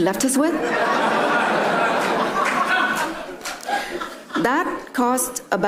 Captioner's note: attendees laugh